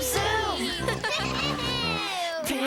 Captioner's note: all laughing